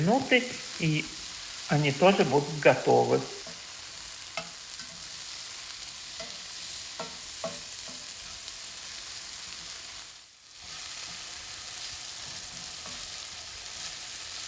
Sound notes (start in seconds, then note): 3.5 frying